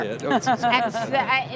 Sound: laughing

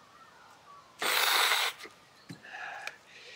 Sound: snorts

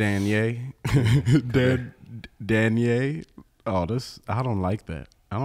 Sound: laughs

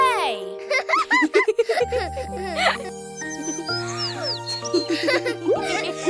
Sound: gentle music; both laughing

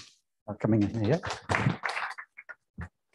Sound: applause

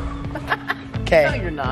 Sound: laughs

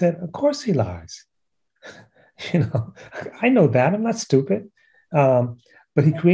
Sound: laughter

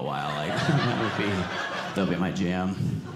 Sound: audience laughing

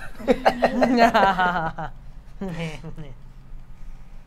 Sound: all laugh

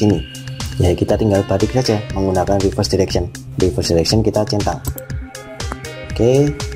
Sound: click

